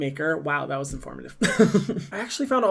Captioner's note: giggles